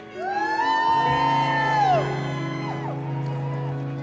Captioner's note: cheering